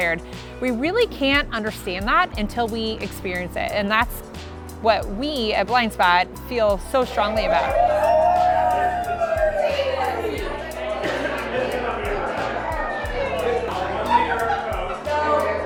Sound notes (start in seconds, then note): 7.3 diners talking; 7.5 diners cheering